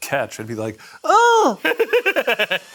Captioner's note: laughs